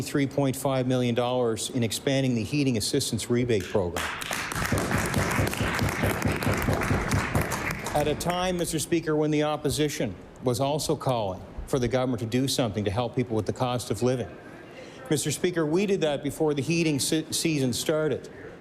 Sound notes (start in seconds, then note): 6.5 applause